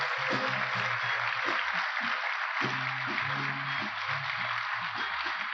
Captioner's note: applause